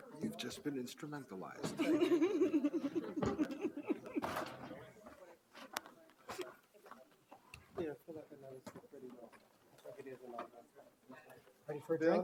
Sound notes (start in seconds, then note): 1.7 audience laughs